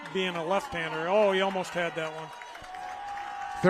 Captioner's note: applause